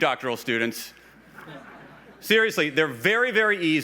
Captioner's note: laughs